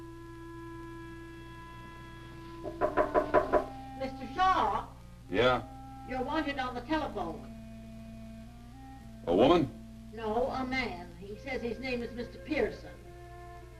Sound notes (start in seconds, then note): 2.6 door knocking